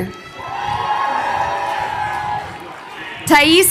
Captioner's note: crowd cheering